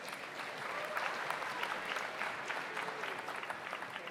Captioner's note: audience applauds